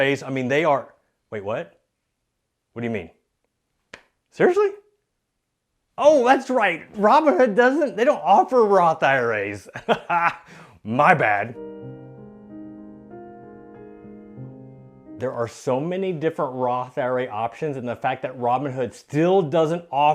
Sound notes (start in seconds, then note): 9.7 laughs; 10.5 sad music